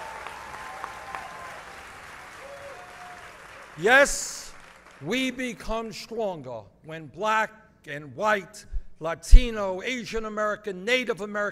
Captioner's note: applause